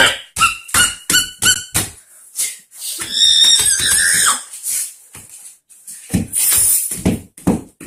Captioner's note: screaming